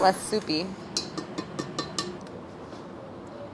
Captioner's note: tapping